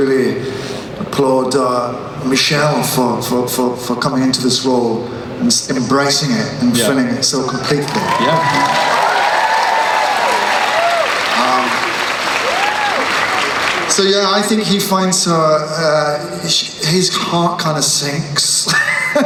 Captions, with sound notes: applaud Michelle for coming into this role and embracing it and filling it so completely. - [Voiceover] Yeah. (cheering) - So yeah, I think his heart kinda sinks...